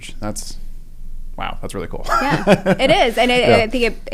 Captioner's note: laugh